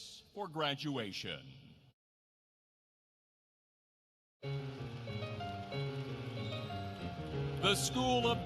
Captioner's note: applause